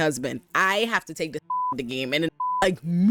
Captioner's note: beep